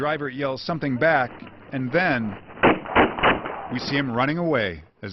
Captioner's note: gunshots